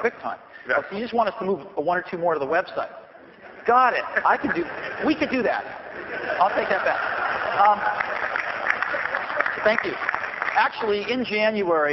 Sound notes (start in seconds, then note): 5.7 laughter; 7.2 clapping